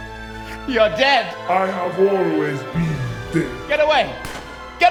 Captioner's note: malevolent voice